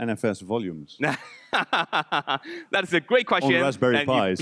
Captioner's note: laughing